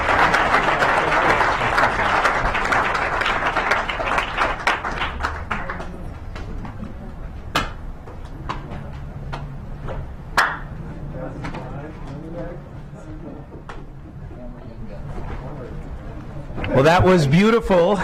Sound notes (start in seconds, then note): 0.0 clapping